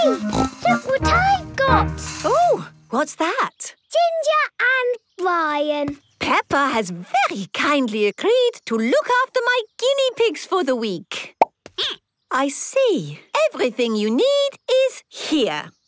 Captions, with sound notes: Look what I've got! - Oh! What's that? - Ginger and Brian. - Peppa has very kindly agreed to look after my guinea pigs for the week. (squeaking) - I see. - Everything you need is here.